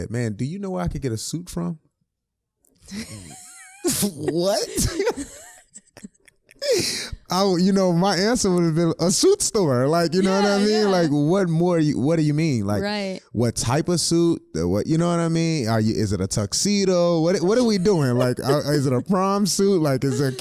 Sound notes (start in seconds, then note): 2.9 both laughing